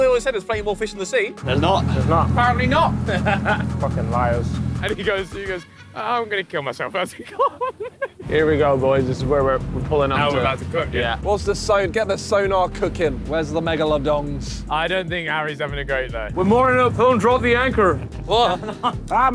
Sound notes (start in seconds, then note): 2.7 laughing; 7.0 laughs